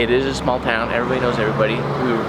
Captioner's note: car revving